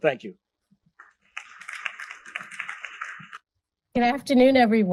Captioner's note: applause